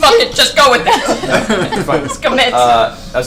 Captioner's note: all laugh